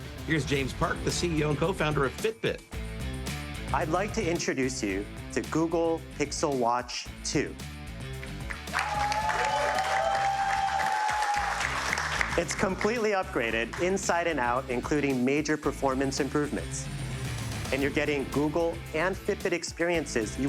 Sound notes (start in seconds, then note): 8.6 audience cheers